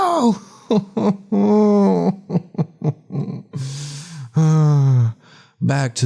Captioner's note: crying intensifies